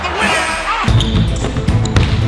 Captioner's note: sneakers screech; upbeat orchestral music; ball bounces